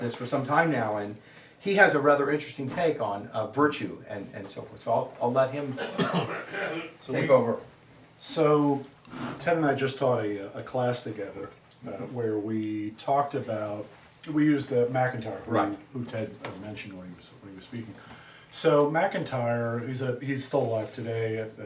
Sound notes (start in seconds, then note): 5.8 students cough